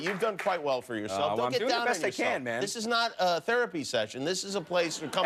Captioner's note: laughter